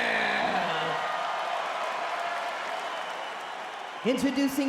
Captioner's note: crowd cheers